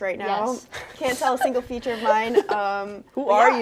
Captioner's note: both laughing